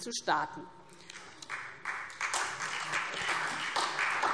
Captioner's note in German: Beifall SPD